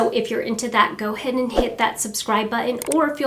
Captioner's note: air whooshing